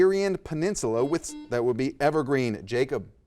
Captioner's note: buzzer dings